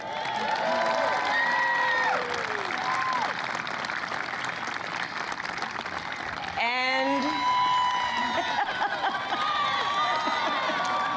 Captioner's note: applause; laughs